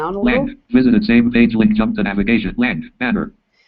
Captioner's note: JAWS speaking